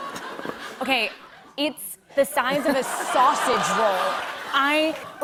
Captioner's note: laughter; laughter